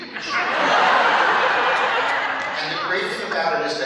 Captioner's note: laughter